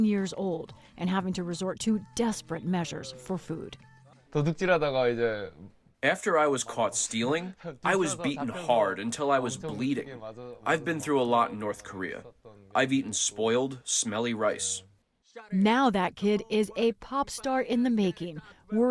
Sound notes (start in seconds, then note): 6.3 through translator; 16.4 voice-over